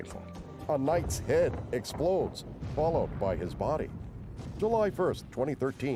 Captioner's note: explosions